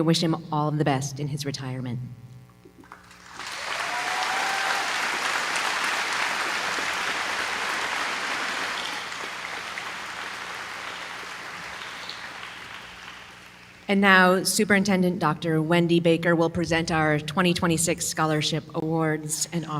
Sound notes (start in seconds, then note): 2.8 applause